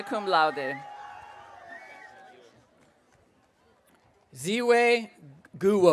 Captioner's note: audience cheering